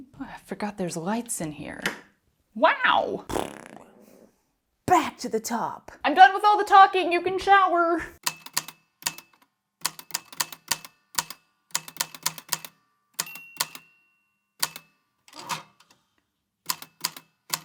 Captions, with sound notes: Oh, I forgot there's lights in here. Wow! [Mouth fart] Back to the top! I'm done with all the talking, you can shower! [The typewriter clicks and clacks away, with dings here and there]